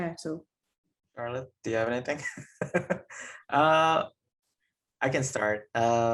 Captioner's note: chuckling